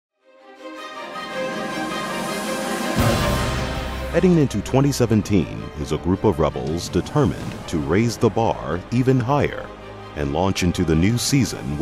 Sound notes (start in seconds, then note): 0.0 orchestral music; 4.1 voiceover